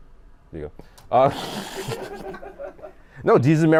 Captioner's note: laughter